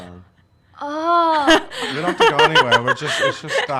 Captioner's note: laughs